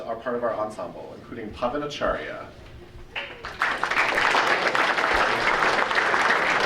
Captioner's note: audience applauding